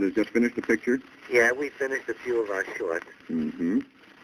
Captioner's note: on phone